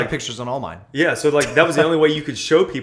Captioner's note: laughter